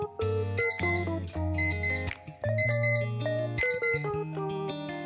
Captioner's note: alarm ringing